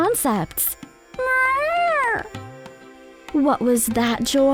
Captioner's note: meow